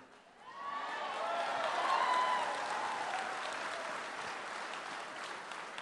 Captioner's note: cheering and applause